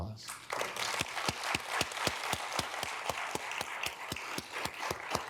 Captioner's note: audience clapping